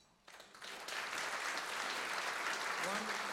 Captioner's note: applause